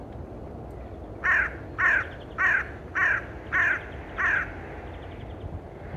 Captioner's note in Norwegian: Lyden av kråke